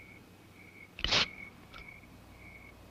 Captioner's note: can fizzles